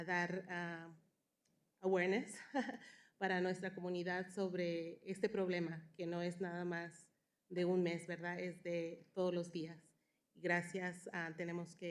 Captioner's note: speaking spanish